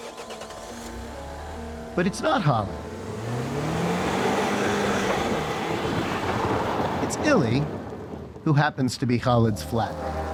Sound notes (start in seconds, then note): 0.1 engine roaring; 3.8 engine roaring